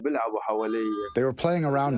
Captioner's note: through translator